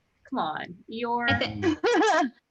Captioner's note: laughter